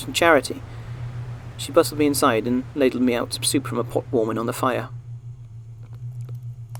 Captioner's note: wind fades, crackling fire